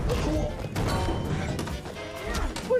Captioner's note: clang